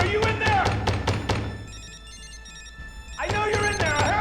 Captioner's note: banging on door; phone ringing